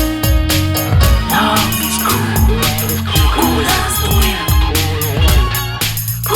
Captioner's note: cool wind